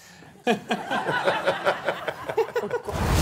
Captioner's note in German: Lachen